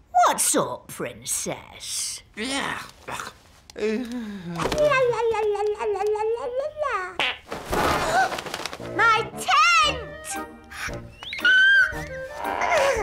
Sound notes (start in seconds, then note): 7.8 gasps; 7.8 passes wind